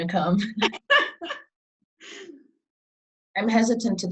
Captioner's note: laughing